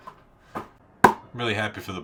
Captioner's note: basketball patting; basketball slap